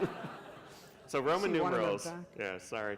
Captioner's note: laughter